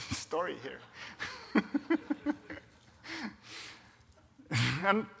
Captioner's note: audience laughs